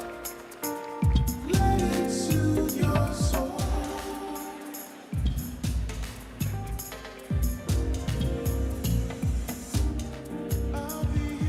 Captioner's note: cheering and applause